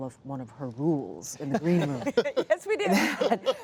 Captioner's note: laughing